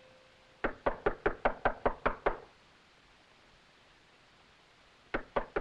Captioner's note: knocking on door